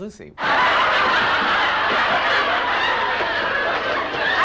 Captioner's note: people laughing